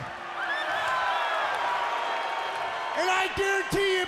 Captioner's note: crowd cheering